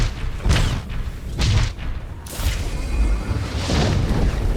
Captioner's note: explosion